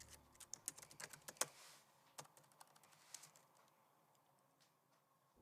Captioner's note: keyboard clicking